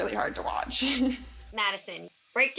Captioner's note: chuckles